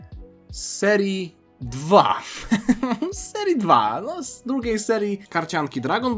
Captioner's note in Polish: śmiech